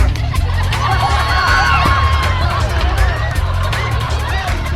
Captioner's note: audience laughing